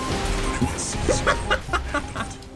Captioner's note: laughter